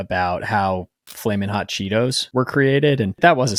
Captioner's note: screen clicking